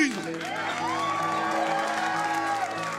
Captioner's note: everyone applauding and cheering; solemn music